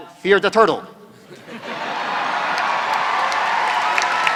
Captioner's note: applause